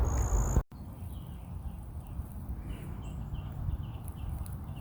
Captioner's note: birds chipping